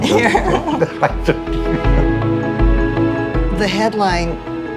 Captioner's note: laughter